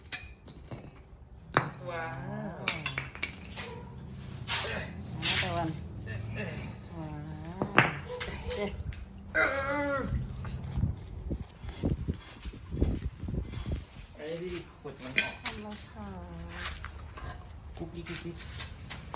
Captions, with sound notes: WOW.... Another one. (grunting) Goopie doopie.